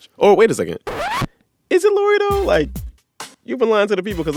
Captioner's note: soundbite of record scratch